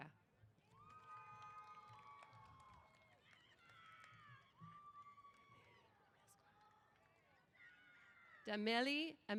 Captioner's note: applause & Cheers